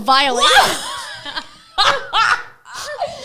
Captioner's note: laughs